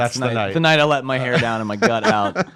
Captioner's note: laughs